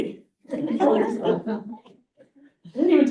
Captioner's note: students laughing